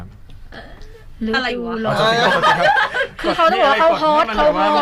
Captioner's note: laughs at his fail